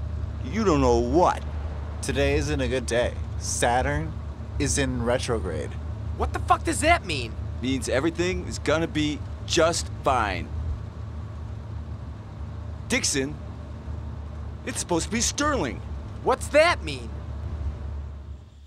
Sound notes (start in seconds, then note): none